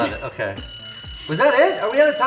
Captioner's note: final bell rings